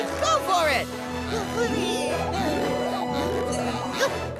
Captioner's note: grunting